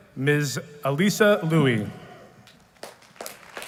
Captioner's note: applause